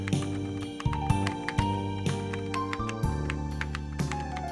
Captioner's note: subdued music; keyboard clacking